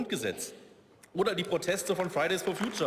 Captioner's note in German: Beifall